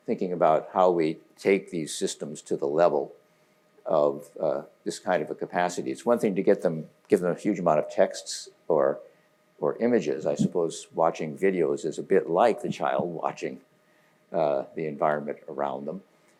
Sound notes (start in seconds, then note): none